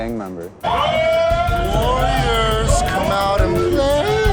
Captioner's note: group clamoring